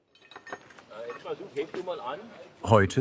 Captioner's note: quietly